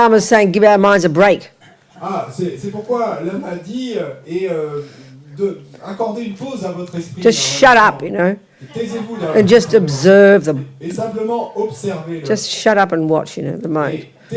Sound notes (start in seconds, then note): 2.1 French; 14.1 French